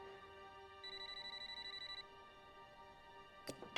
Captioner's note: phone ringing